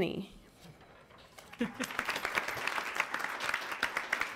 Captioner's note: applauding